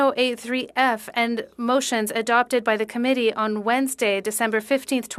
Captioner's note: speaking French